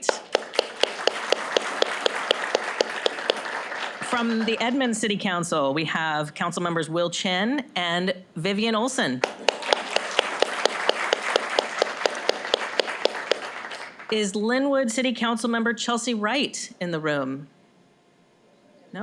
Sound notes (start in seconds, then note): 0.0 applause; 9.2 applause